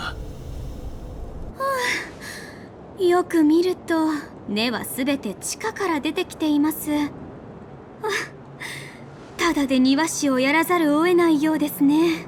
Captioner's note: sigh